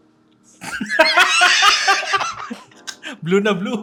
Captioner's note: both laugh